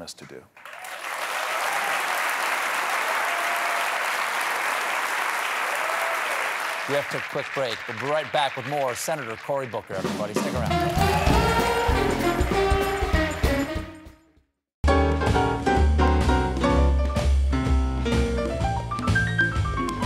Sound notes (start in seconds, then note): 4.8 cheers and applause; 12.7 band playing; 12.7 cheers and applause